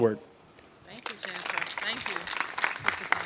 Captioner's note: applause